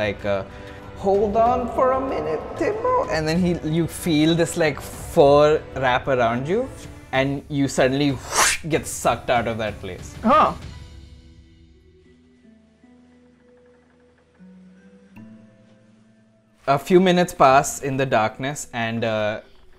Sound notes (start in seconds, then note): 8.2 whip